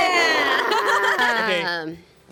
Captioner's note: women cheer and laugh